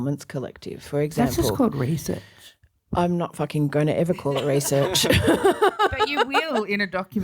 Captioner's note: laughs